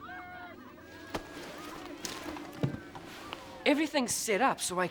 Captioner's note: people chattering angrily